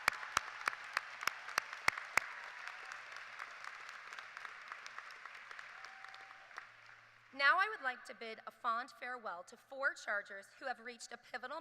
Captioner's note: applause